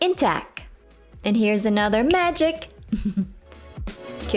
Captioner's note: snaps finger, soft chuckle